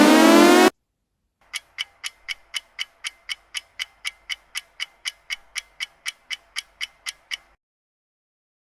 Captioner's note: clock ticking